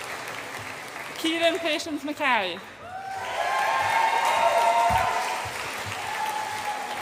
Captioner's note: audience applauds and cheers